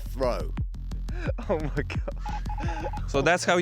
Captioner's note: laughs